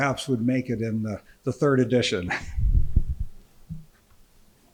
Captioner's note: laughing